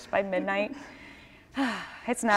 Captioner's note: sighs